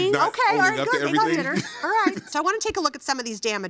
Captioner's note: laughing